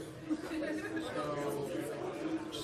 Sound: laughter

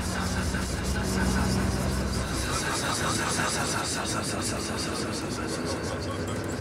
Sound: sound - hissing

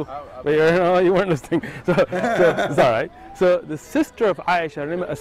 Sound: Ketawa

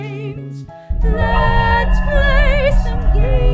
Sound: FNAF 2 hallway sound effect

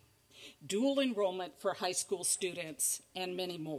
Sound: none

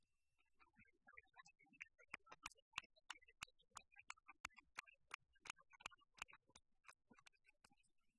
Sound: applause

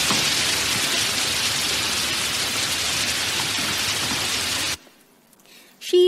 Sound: water falling loudly

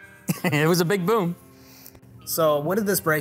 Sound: chuckles

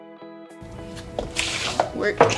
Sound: sliding

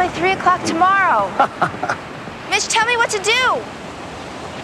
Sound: laughs

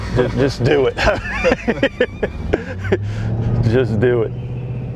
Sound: laughter

